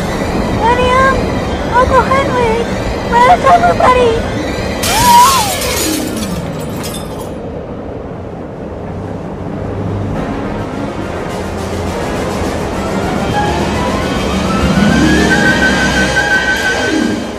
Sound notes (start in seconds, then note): 4.8 glass shatters as the window is broken by the wind of the tornado; 4.8 yells